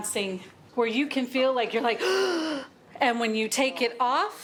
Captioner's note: gasps